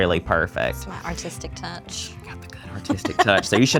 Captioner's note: whispering; laughs